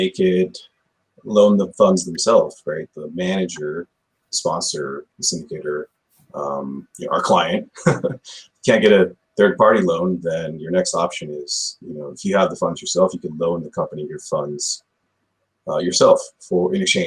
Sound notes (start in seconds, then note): 7.6 chuckles